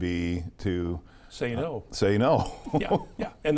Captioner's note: chuckles